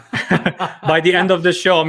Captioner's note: chuckles